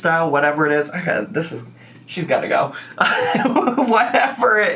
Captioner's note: laughs